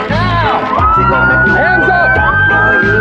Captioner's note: sirs blaring